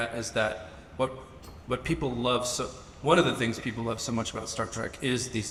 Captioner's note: none